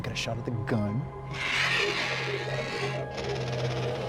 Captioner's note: animal hissing